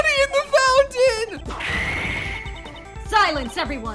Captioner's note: smash noise